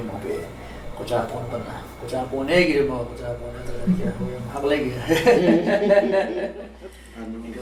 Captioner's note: laughter